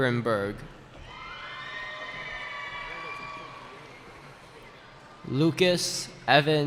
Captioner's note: cheering